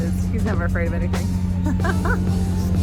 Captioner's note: laughs